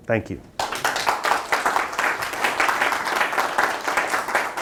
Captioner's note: students applaud